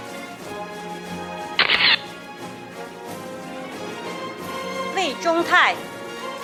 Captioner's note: camera shatters; audience applauding